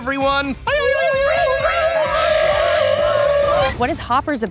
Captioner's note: animals screaming